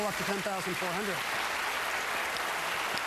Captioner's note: applause